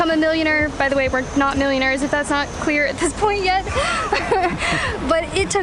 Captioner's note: laughter